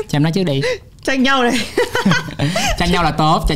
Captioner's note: laugh